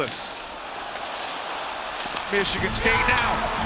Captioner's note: audience cheering